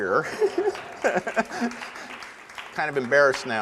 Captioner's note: audience applause